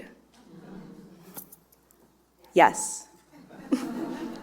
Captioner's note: audience murmurs